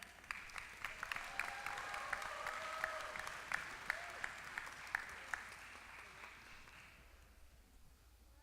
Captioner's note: applause